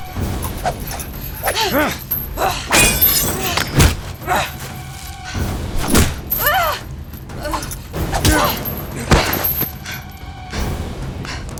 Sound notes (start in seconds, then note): 4.5 grunts